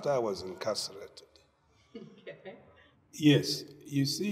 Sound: laughing

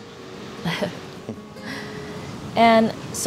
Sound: laughs

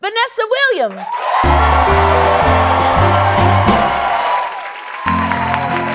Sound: cheering

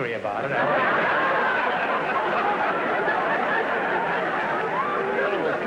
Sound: audience laughter

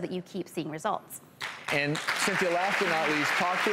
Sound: applause

